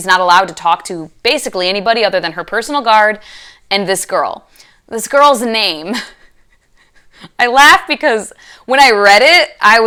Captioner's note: laughing